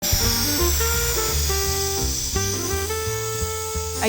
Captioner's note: balloon inflating